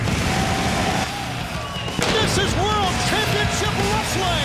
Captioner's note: crowd cheering